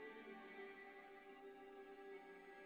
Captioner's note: none